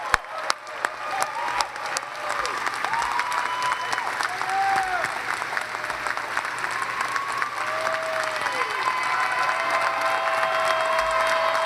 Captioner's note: cheers and applause